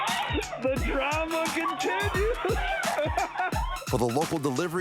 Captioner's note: laughing